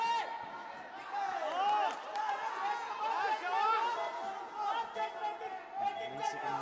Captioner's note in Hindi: तालियां